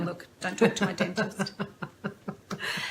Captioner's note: laughter